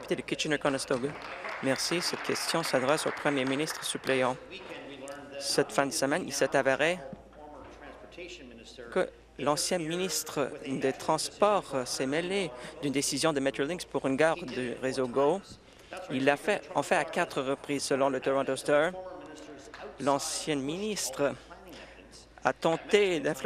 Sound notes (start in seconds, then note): 4.4 applause